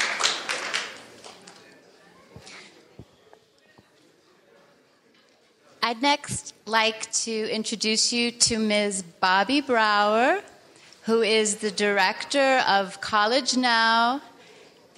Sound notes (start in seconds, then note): 1.2 people chattering